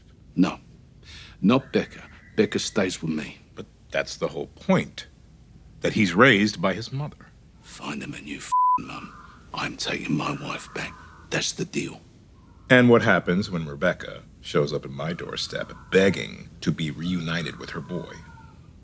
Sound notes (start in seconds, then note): 8.4 beeping